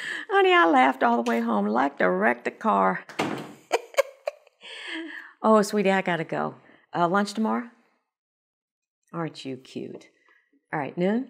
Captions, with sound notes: Honey, I laughed all the way home. I liked to wreck the car. ( door closing ) Oh Sweetie, I gotta go. Uh, lunch tomorrow? Aren't you cute? All right, noon?